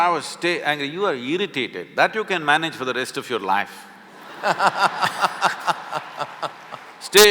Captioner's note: laughter